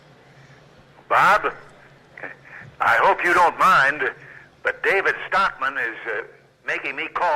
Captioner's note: via Telephone